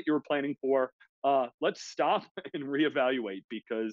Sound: laughs

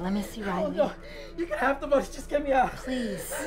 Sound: mutters

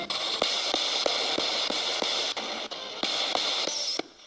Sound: ghost box hissing

